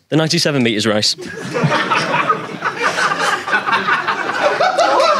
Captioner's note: audience laughing